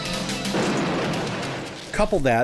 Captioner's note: explosion booming